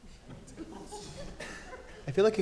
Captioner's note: audience laughing